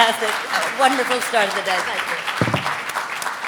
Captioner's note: audience applauding